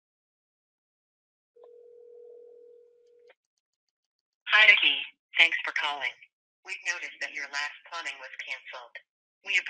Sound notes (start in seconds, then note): 1.6 phone ringing